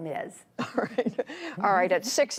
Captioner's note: laughter